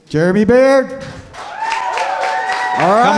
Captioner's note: cheering